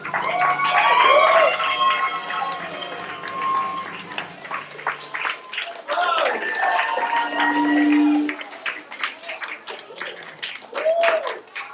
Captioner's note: applause